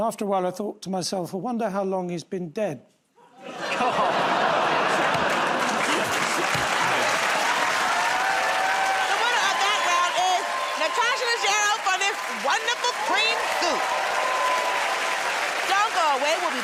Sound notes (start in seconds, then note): 3.1 audience groans; 6.2 cheers and applause